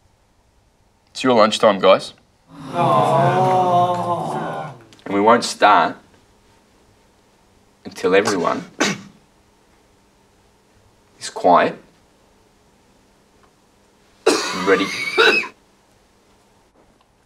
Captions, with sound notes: - It's your lunch time guys. (class moans) And we won't start, until everyone, is quiet. (coughs) And ready. (coughing)